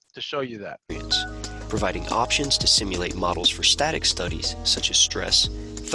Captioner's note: voiceover